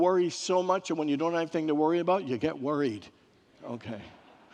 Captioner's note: congregants laugh